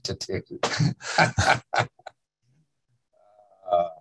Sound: laughter

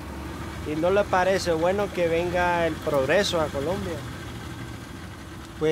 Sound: speaking in foreign language

